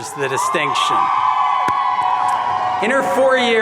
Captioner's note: audience cheering